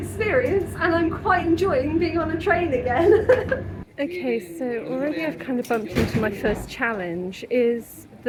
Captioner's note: laughing